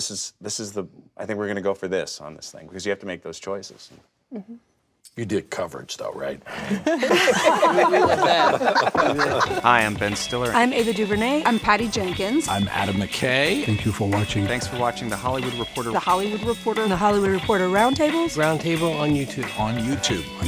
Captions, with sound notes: I think we're gonna go for this on this thing because you have to make those choices. - You did coverage though right? (guests laugh) (upbeat music)